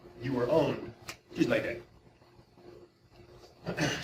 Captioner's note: snaps